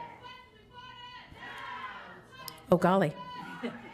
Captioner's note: crowd